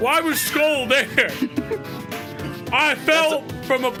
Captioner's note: laugh